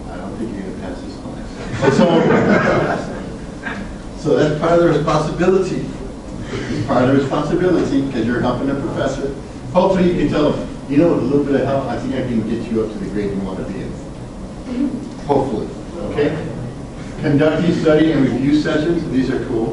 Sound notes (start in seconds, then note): 1.6 students laugh